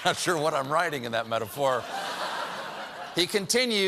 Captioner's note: laughter